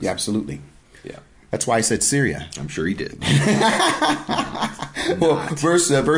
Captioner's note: laughing